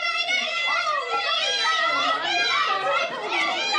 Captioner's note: enthusiastic yelling